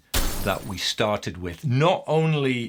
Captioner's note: explosive smash